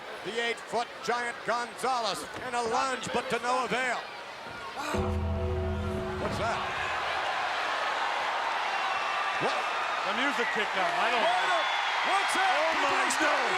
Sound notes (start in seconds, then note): 4.9 bell tolling